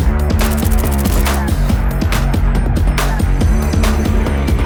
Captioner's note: upbeat instrumental music continues; bullets popping